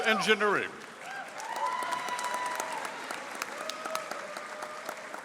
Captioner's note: audience applauding